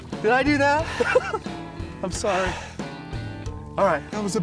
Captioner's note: laughs